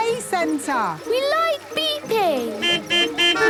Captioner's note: horns beeping